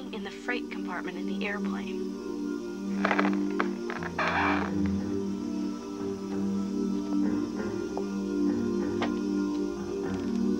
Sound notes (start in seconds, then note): 3.0 hinges creaking